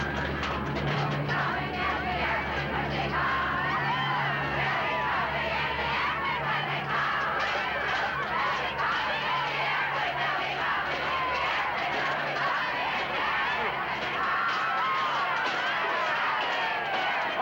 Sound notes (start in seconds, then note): 2.2 cheering and singing